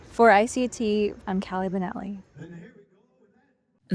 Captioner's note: faintly speaking